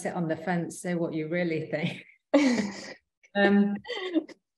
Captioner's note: both chuckling